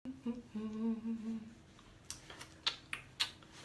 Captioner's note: humming; clicks tongue